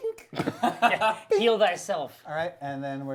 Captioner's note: laughing